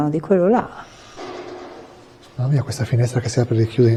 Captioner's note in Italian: rumore di finestra che batte